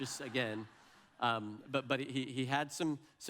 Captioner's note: audience laughs